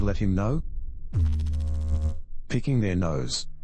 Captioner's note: electrical noise